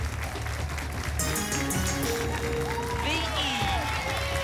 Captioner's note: applause; pinging sounds; applause and cheering